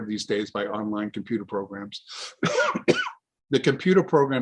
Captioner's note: coughs